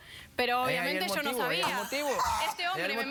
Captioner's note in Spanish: exclamación